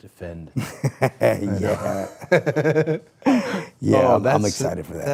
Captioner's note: person laughing